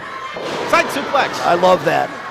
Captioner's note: thud